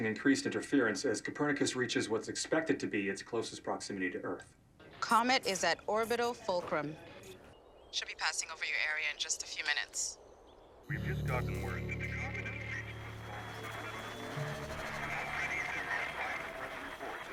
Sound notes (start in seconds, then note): 12.6 crowd; 16.1 applause